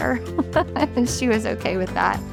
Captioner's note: laughing